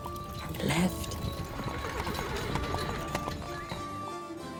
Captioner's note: horse whinnying; upbeat music